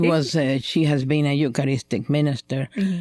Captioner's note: laughter